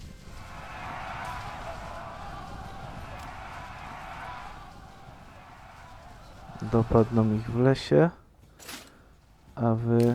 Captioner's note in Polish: Aplauz